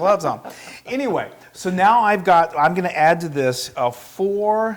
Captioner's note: laugh